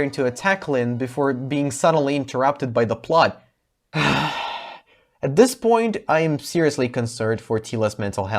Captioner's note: sigh